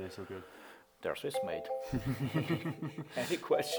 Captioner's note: laughs